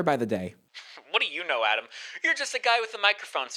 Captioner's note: scoffs